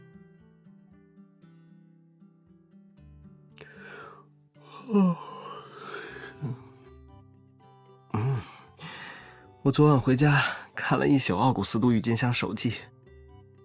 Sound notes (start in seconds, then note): 4.6 yawns